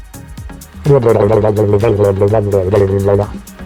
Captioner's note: blub-lub-lub sound effect